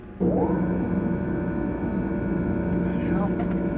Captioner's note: machinery buzzes